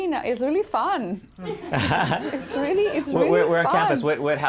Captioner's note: laughter